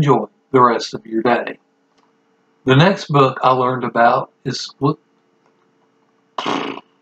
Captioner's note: rude noise